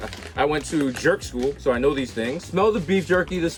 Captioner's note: laughs